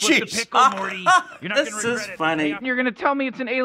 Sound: laughs

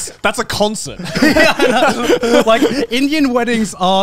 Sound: all laughing

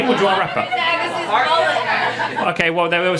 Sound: audience calling out

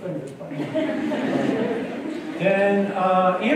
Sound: laughter

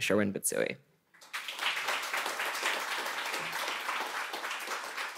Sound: audience clapping

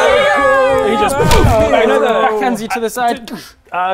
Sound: boof

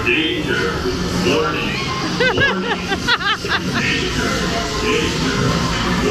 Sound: laughing

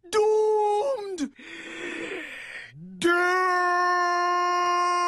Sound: inhales

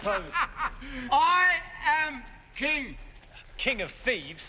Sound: laughs

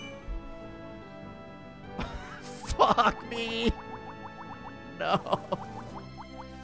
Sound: laughs

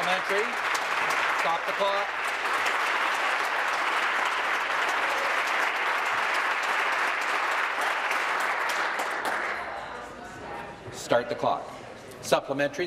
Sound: applause

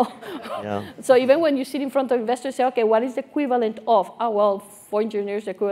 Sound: laugh

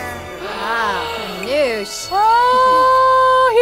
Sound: gasps

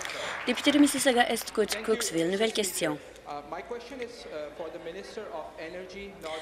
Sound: some Applause

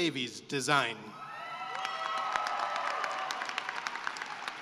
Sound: cheering and applause

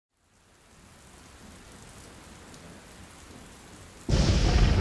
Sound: rain and thunder storm

